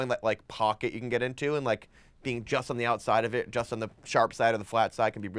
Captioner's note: none